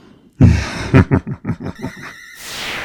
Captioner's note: silently Giggles